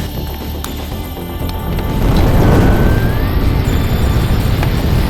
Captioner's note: whirring and whooshing